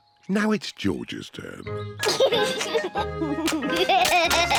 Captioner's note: chuckles